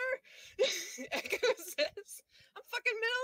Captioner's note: laughing